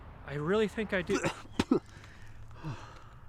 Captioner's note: spitting